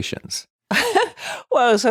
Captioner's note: laughing